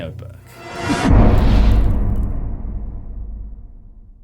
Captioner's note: impact